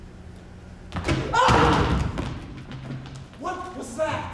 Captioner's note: gross person cries out